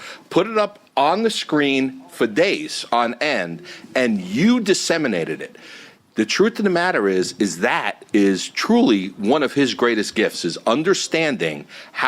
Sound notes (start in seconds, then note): none